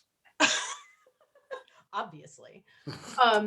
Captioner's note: laughs